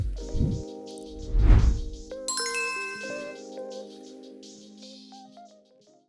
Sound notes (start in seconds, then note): 0.0 light upbeat music; 2.2 bell lightly chiming